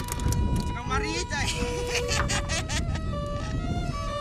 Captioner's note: talking in local dialect